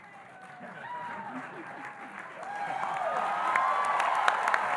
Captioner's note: audience cheering